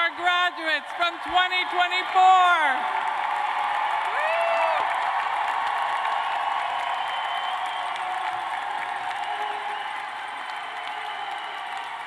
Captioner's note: cheers and applause